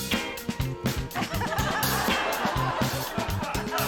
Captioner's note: laughter